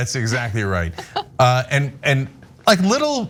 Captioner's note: laugh